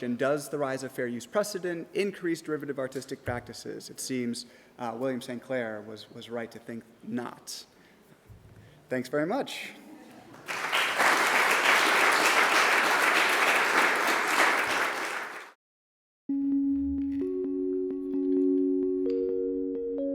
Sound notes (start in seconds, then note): 10.3 audience applause; 16.3 soft music